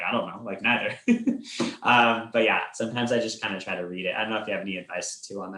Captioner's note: chuckles